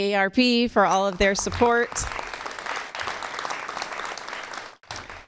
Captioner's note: applause